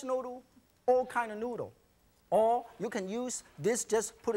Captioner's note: none